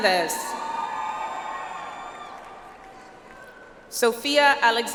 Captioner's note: audience applauds